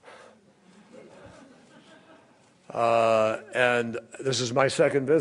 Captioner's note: laughter